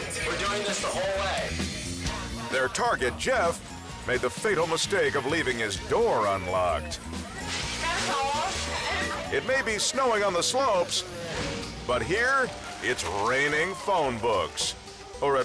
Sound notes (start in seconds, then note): 7.5 whimsical music; 9.0 paper crinkling